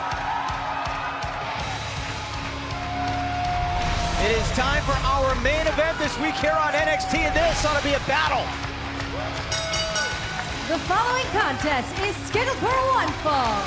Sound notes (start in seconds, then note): 2.3 crowd cheering; 9.5 bell ringing